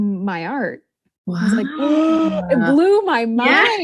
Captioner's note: gasps